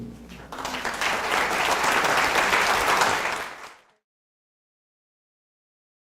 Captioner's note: applause